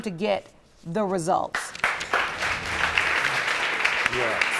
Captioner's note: audience applauding